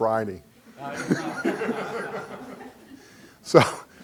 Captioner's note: laughing